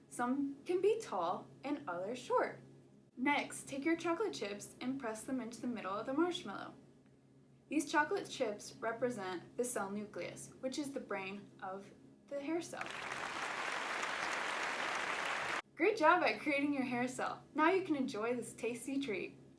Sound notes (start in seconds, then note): 12.8 clapping